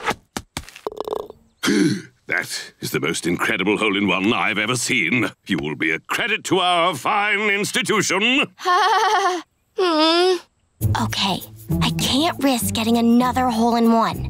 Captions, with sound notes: [gasping] That is the most incredible hole in one I've ever seen. You will be a credit to our fine institution. [laughing, groaning] Okay. I can't risk getting another hole in one.